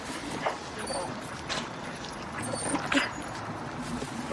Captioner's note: dog whining